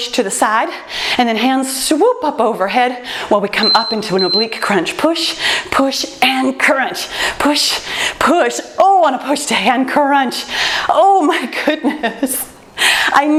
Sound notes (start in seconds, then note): 3.6 timer beeps; 11.8 laughs